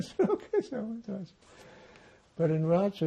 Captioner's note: laughing